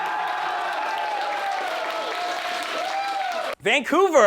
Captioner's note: applause